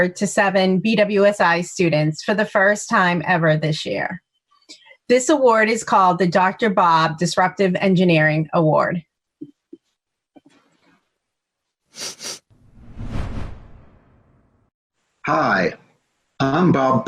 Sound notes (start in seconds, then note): 11.9 sniffs